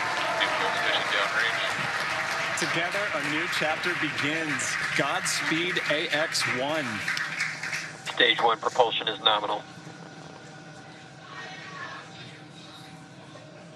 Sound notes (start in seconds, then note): 0.0 cheering and applauding